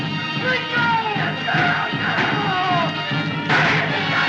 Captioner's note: gunshots; gunshots Continue; Buck Shouting